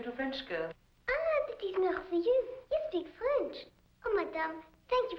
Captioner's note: speaking in French